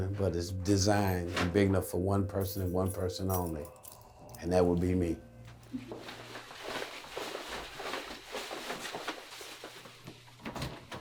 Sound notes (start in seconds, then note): 5.4 footsteps